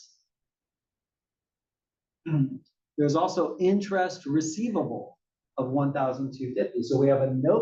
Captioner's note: cough